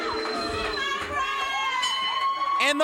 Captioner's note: crowd boos; bell rings